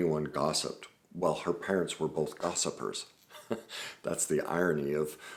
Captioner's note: laughs